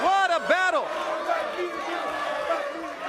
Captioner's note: crowd cheering